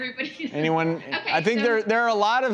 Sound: laughing

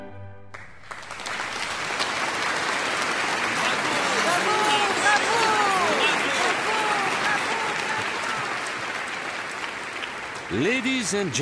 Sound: applause and cheering

